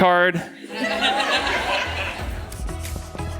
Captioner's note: audience laughing; upbeat music